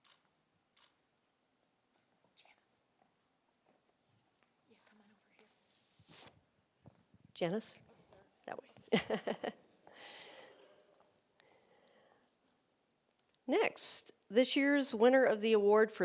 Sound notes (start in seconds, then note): 8.9 laughs